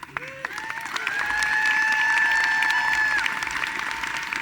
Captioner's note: audience applauding